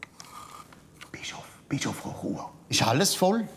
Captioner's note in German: Flüsternd